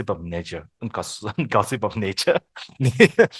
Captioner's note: laughters